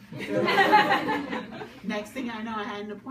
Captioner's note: audience laughs